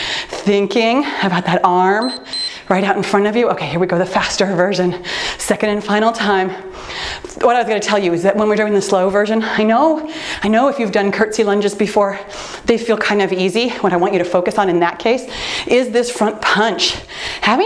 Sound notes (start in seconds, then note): 2.0 timer beeps